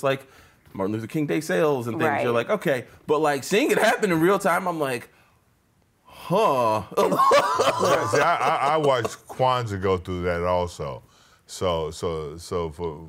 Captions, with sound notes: it was just like Martin Luther King Day sales and things. You're like, okay, but like seeing it happen in real time, I'm like, huh. (laughs) - I watched Kwanza go through that also.